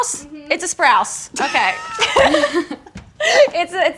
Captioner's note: laughing